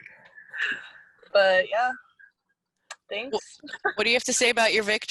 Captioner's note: laughs